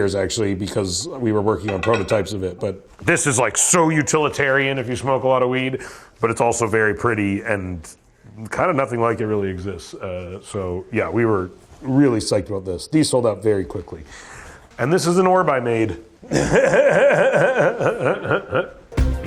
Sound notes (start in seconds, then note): 16.2 laughs